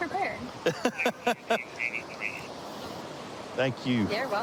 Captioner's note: laughing